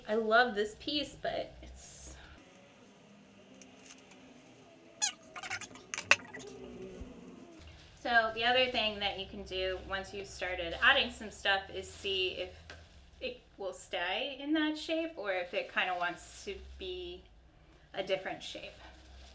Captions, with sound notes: I love this piece but it's so. (voice squeaking) So the other thing that you can do once you've started adding some stuff is see if it will stay in that shape or if it kinda wants to be a different shape.